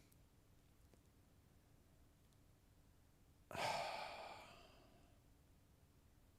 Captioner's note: sigh; silence